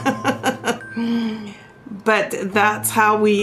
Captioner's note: laughs